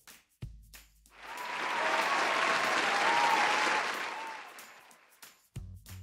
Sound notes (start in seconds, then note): 1.2 applause